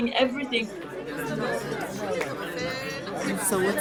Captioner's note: crowd murmurs